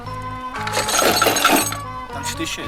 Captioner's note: clanking